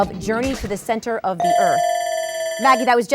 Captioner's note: buzzer sounds